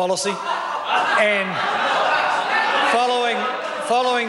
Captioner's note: members laugh